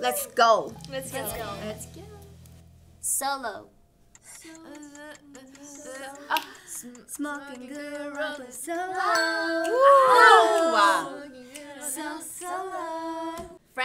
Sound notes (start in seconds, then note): 4.1 timer clicking; 9.0 bell rings